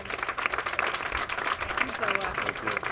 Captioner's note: applause